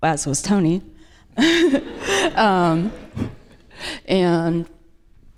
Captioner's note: audience laughs